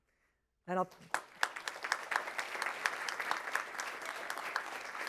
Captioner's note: applause